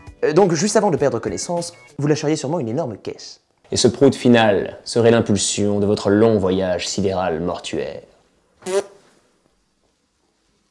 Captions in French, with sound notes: Donc juste avant de perdre connaissance, vous lâcheriez sûrement une énorme caisse ! Et ce prout final, serait l'impulsion de votre long voyage sidéral mortuaire. *prout*